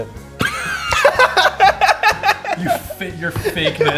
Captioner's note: laughter